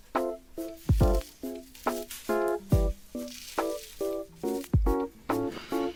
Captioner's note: unwrapping